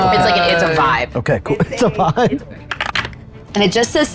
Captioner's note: dice rattling; laughs